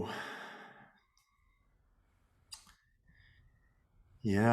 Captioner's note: sighs